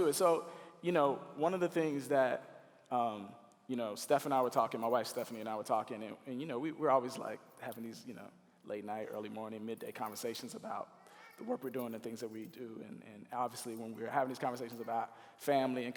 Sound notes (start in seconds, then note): none